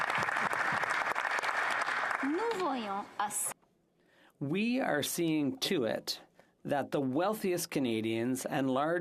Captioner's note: applause